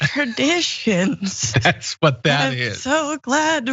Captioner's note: laugh